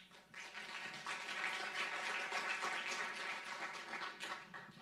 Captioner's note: audience clapping